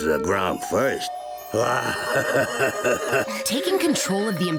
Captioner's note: evil laugh